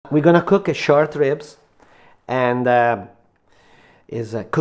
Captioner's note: Massimo Bottura speaking